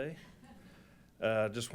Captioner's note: chuckling